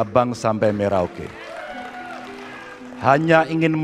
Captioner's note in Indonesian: tepuk tangan